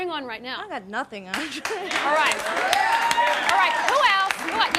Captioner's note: laughter, applause